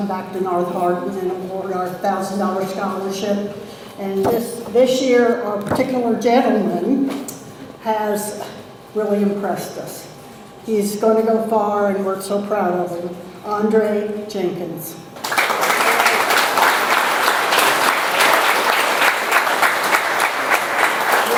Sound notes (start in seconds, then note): 15.2 audience applauds